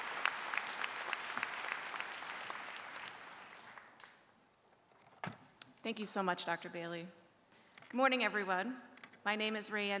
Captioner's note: applause